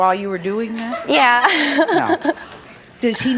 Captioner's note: laughs